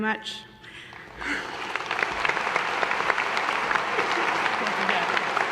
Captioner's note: audience applause